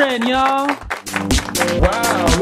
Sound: applause

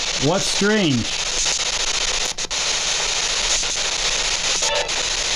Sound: static and interference

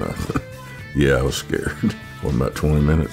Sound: laughs

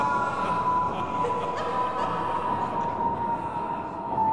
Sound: laughing

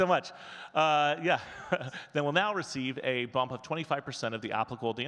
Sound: chuckles

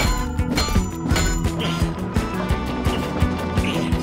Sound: grunting

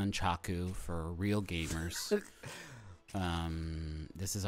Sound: laughing

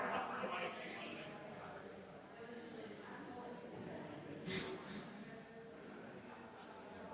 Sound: people chattering distantly continues

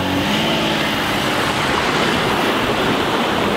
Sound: engine revs

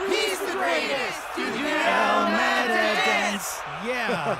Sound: crowd

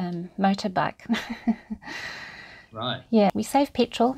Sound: chuckles

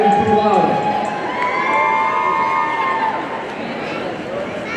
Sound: audience cheering

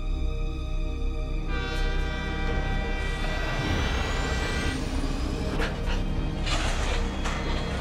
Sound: honking

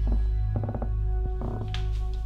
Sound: creaking floorboards

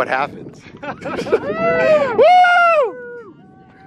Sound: laughter and cheering

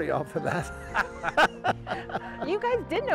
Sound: laughing

